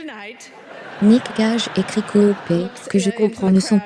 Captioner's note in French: des rires